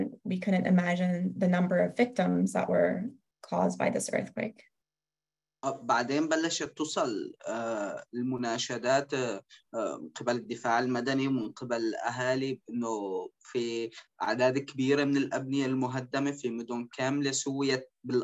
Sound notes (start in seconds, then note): 10.7 speaking In Arabic